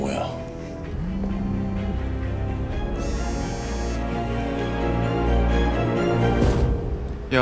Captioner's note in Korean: 휴대전화 진동음